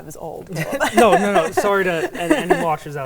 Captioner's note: laughing